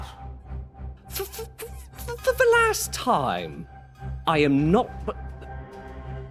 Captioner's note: stutters